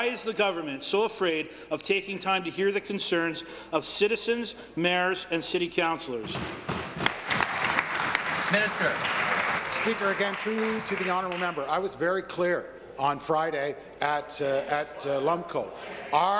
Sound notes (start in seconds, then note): 10.7 applause